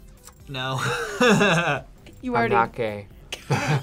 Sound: laughs

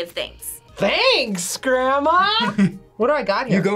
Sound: laughs

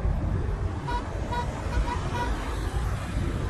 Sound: wedding car horn honking

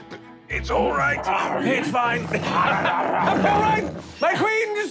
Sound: growling

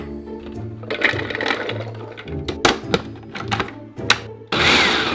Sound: walnuts pouring; food processor pulsing

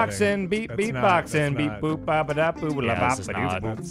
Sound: more bad beat-boxing

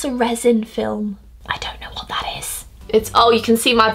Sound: whispering

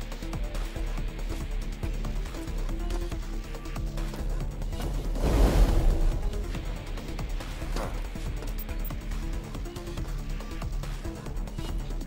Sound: gunshots

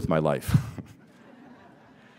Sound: laughter

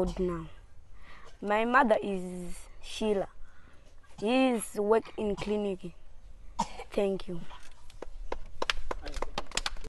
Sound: clapping

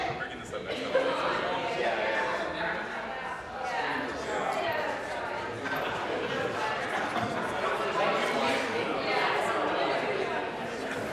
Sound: chatter

